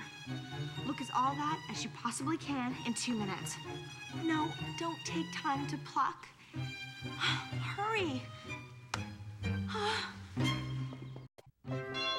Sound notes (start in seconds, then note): 9.6 sighs